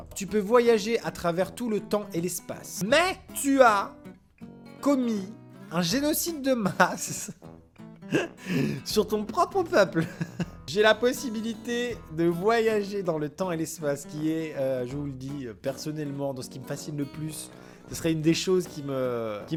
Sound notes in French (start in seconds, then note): 8.1 rire